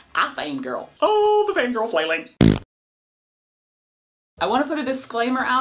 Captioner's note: fart noise